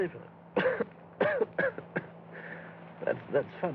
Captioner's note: coughing, Chuckling